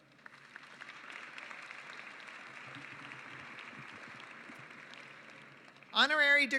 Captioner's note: applause